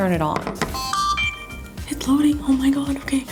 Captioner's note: camera beeps